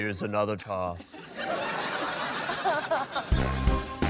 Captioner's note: laughter